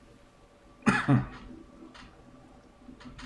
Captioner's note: coughs